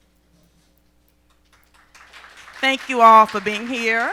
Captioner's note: applause